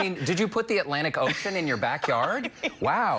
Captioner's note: laughter